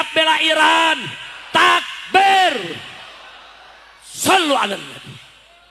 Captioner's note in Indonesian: berteriak